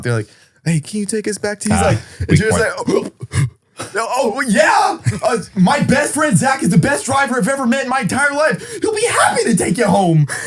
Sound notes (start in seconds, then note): 1.7 gasps